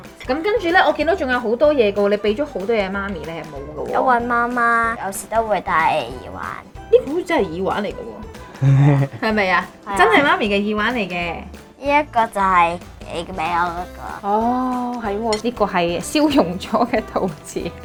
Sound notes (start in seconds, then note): 8.6 laughing